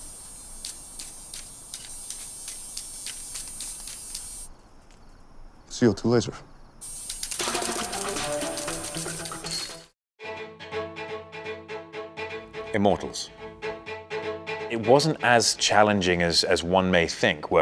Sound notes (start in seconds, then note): 0.0 laser whines; 7.7 laser whines; 10.1 stirring music